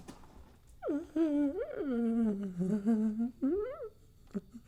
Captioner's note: groaning